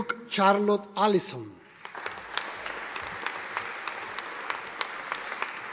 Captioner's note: audience applauding